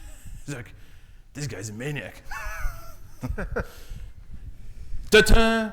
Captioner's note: chuckling